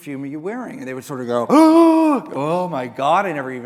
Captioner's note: gasps